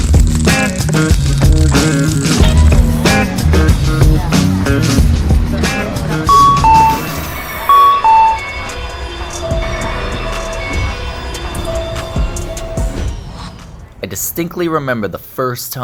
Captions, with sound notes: [ train door chime ] I distinctly remember the first time